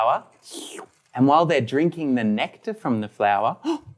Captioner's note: buzzing sound; sucking sound